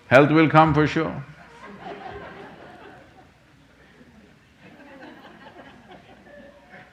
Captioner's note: laughter